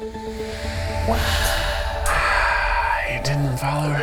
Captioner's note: sighs